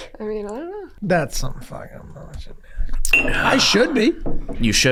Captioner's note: grumbling